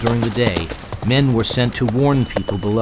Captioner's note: voiceover